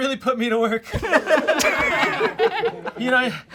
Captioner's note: all laugh